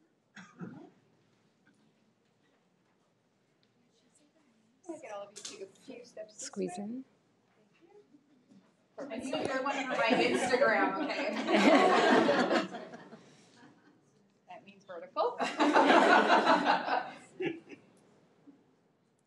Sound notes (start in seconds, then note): 11.9 laughing